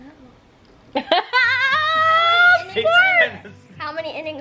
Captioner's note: laughs